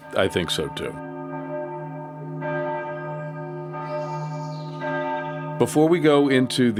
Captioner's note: church bells